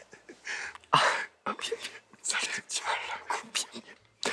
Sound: in pain

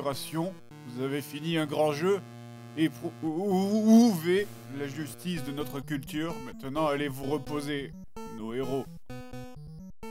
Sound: reads the rest in french

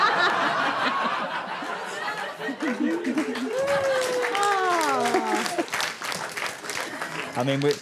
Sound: audience laughter drifts into applause

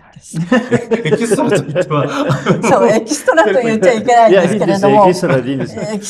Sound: laughs

